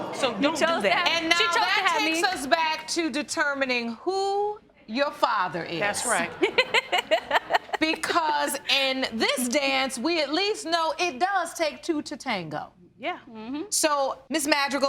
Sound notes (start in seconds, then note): 6.2 laughs